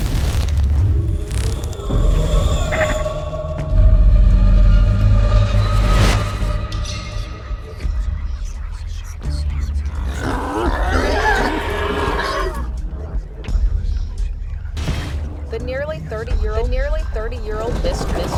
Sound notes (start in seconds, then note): 0.0 flames crackling; 8.4 eerie whispering; 9.3 animal growling